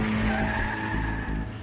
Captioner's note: tires squeal